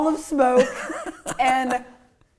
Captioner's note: laughing